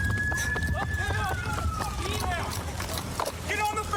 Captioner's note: shouting